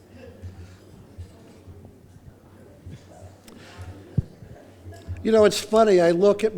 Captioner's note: laughter